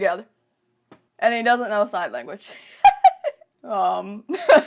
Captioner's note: laughs